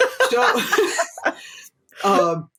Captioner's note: laughter